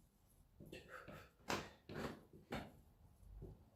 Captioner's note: breathes out